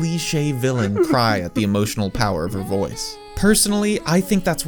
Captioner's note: sound of villain tears